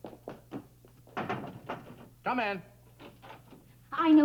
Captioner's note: knocking on door